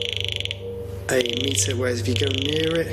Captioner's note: computer clacks